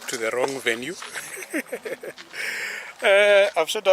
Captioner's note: chuckles